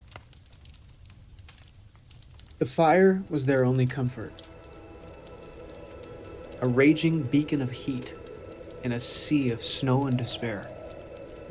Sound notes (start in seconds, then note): 0.0 fire crackling